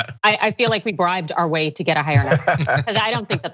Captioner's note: laugh